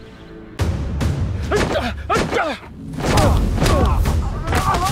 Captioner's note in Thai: เสียงการต่อสู้